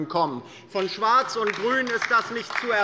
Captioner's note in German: Beifall bei der LINKEN